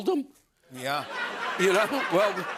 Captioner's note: laughter